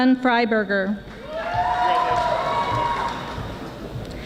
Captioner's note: audience applauding